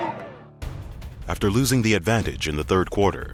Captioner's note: voiceover